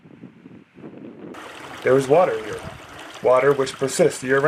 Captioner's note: running water